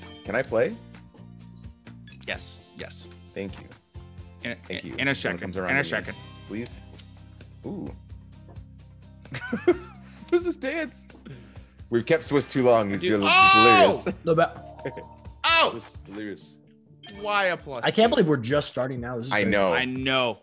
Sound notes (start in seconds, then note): 9.6 laugh